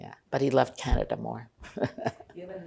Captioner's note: laughing